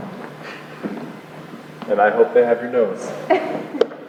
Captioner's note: chuckles; giggles